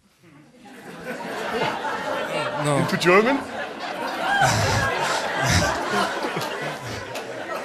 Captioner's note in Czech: smích